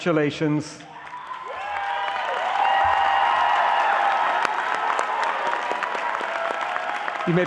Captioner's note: audience applauding